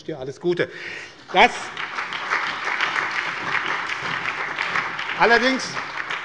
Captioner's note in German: Allgemeiner Beifall